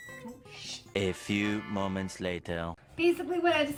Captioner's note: silly Voice